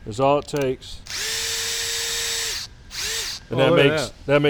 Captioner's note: drill buzzes